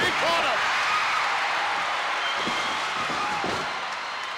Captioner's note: crowd cheers